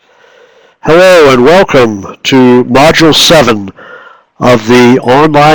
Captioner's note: voiceover